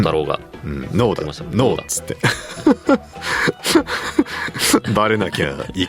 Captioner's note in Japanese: 笑い